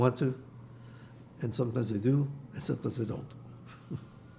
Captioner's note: laughing